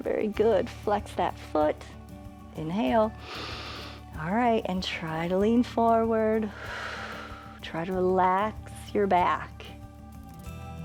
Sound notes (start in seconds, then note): 3.2 inhales; 6.8 exhales